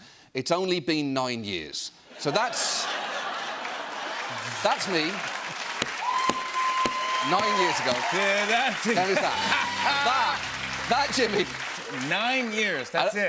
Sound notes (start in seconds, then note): 2.6 laughter and applause; 7.2 cheers and applause